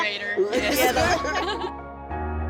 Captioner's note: all laughing; gentle music